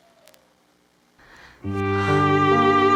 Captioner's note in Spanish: suspiro profundo